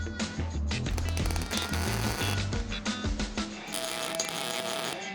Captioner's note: tool crackling